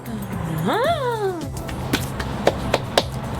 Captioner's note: making gasping sounds